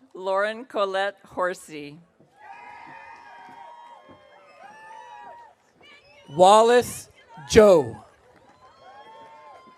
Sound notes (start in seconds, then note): 2.4 audience cheering